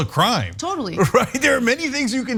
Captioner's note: laugh